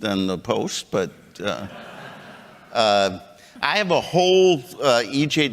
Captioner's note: chuckles